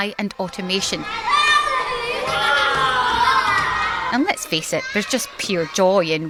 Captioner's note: crowd noise